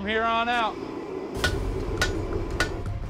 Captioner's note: hammering